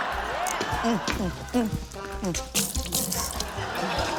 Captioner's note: laughter; grunts